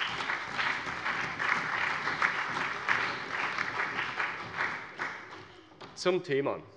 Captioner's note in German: Allgemeiner Beifall